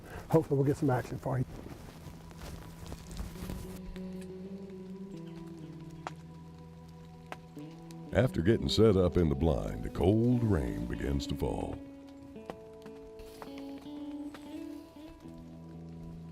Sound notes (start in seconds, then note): 1.4 bag rustling; 3.8 rain dripping; 4.0 birds chirping; 12.6 rain dripping